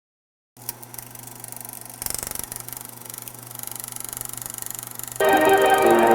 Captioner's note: old film reel noise